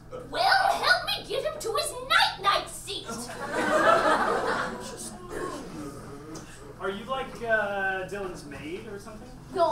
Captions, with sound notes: Well help me get him to his night-night seat. (audience laughs) - Are you like Dylan's maid or something?